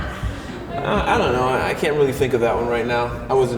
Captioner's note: crowd laughs